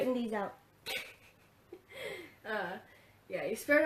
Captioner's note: laughs